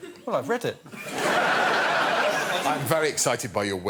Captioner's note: audience laughing